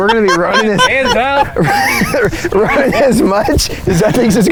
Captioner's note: chuckling